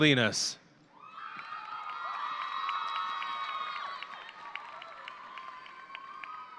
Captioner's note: audience cheering and applauding